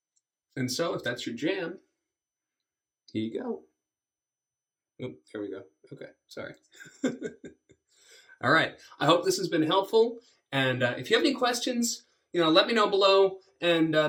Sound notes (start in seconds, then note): 6.8 laughs